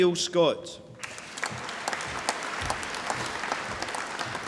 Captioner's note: applause